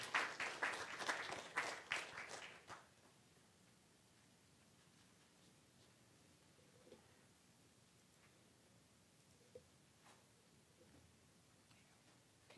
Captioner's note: applause